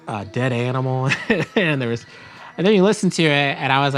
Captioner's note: laughs